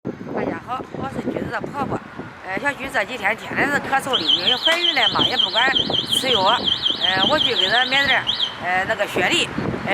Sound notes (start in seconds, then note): 1.2 Mandarin